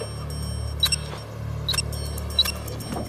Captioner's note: beeping continues